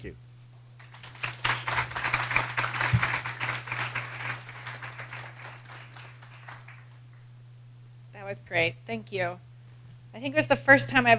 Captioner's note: applause